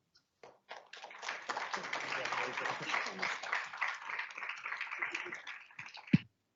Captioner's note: audience applauds